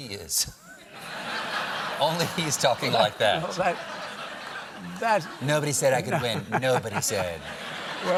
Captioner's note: laughter